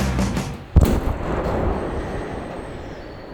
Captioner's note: kabooooom